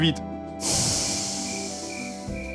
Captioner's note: the game-master sighs